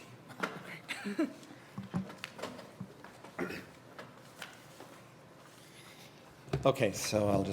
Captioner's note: laugh